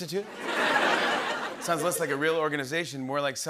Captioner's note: laughter